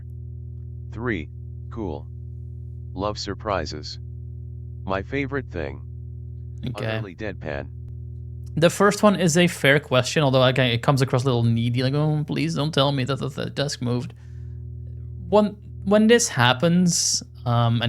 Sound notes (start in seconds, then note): 6.2 utterly deadpan